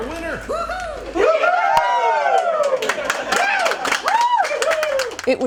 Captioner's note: cheering